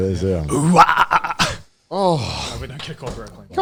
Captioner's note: burping